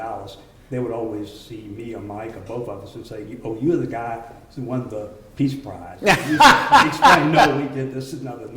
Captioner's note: laughter